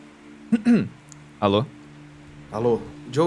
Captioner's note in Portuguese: um-hum